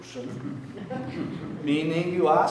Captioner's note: audience laughing